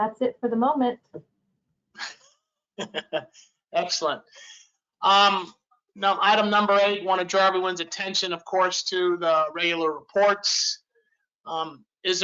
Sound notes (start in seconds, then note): 2.8 laughs